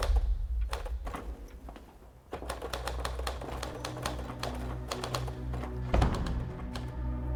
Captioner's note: typewriter keys